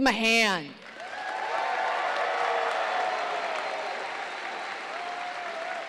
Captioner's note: audience cheers and applauds